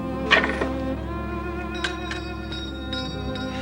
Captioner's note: ringing bell